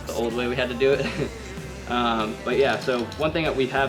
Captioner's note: laughs